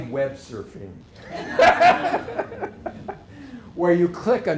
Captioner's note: laughter